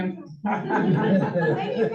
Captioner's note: crowd chuckles